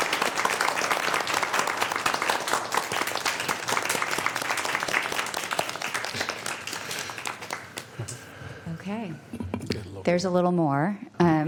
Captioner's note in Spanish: Aplausos